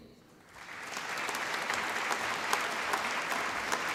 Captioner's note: applause